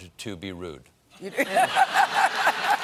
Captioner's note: applause; laughter